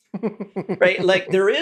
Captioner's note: laugh